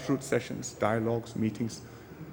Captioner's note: none